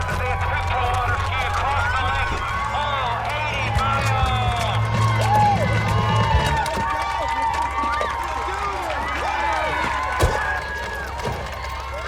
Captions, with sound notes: AS THEY ATTEMPT TO WATER-SKI ACROSS THE LAKE. ALL 80 MILES! (APPLAUDING AND CHEERING) WOO-- YEAH!